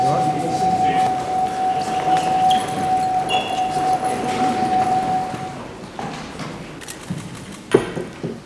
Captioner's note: division bells ringing